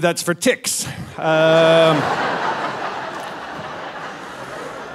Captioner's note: audience laughing